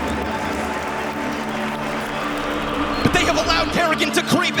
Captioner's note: crowd clapping; crowd cheering